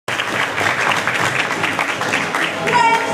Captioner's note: applause